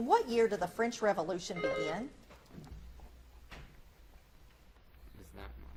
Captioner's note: buzzer beeps